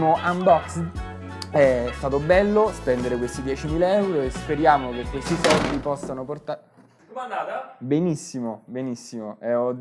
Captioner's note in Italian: sbam